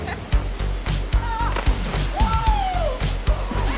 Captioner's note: laughing; whooping